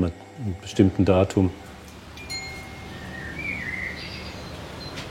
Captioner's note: soft ringing, birds chirping